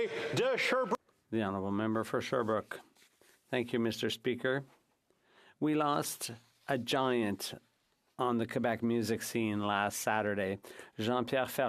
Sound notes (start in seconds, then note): 5.9 speaking French